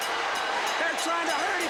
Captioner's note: crowd cheering; bell ringing